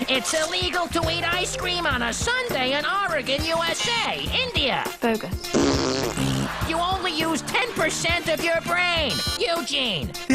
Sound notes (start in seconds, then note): 5.4 chudd blows a raspberry